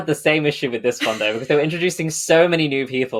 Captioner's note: laughs